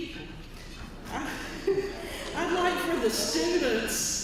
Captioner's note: laugh